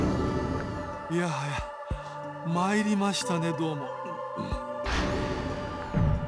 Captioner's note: cough